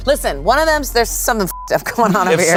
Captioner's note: beep